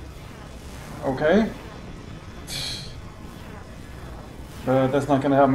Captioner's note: scoffs